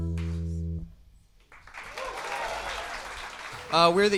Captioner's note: applause